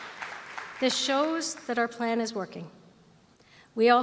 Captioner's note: applause